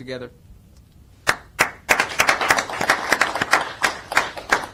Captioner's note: applause